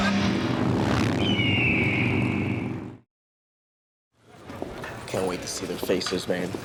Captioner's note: motorbikes roaring; bird shrieks